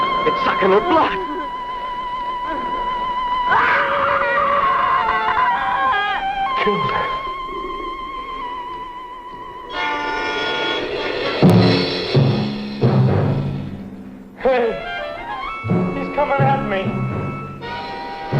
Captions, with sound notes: It's sucking her blood! (Natalie screams) It killed her. (scary music) Hey! He's coming at me!